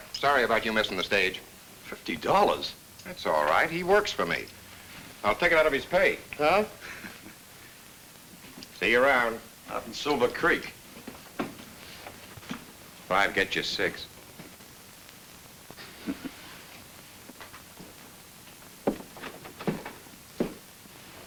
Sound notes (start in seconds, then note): 15.8 Bob chuckles